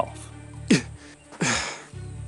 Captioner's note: scoffs, sighs